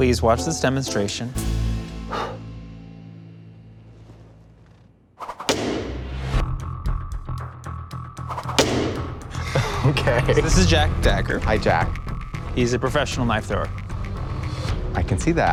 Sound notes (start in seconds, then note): 5.4 knife hitting board; 6.7 suspenseful music; 8.4 knife hitting board; 9.2 laughs